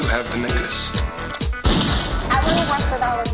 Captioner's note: gunshots